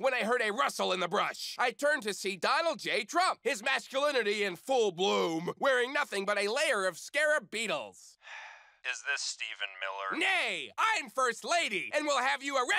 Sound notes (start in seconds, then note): 8.2 sigh; 8.8 on phone